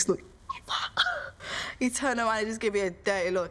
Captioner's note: laughing